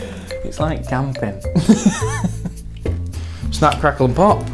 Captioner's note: laughs